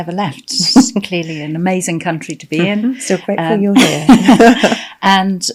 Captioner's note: laughing